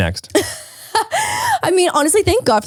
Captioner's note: laughs